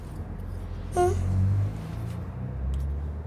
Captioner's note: whimpers